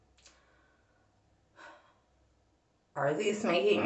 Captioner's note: sigh